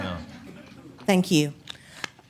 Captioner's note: laughter